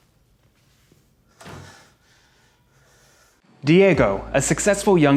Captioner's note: door slamming